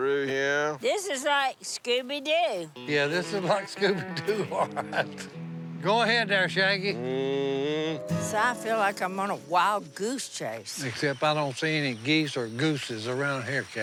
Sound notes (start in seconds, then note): 3.1 laughs